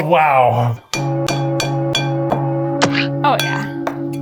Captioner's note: bowl clanking